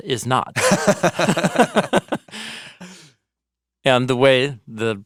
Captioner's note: laugh